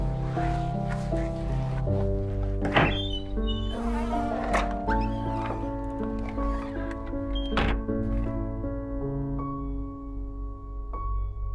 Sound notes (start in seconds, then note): 2.4 door opening and creaking; 9.1 piano note chimes